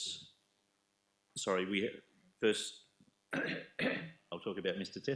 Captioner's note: coughing